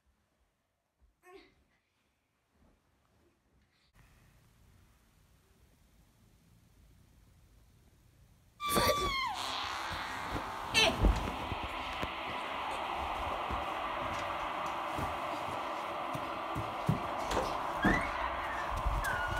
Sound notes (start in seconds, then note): 8.6 Tina Screaming